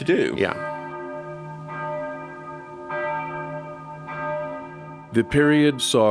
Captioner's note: church bells